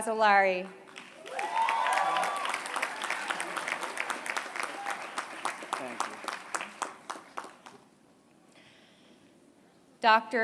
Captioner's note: applause